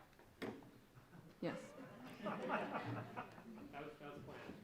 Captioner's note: audience laughs